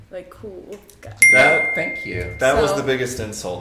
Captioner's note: ding!